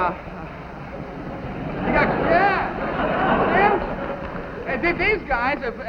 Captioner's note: audience laughing